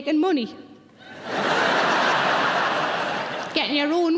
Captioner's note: audience laughing